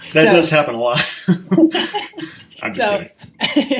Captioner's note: laughing